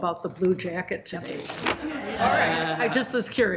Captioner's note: members laughs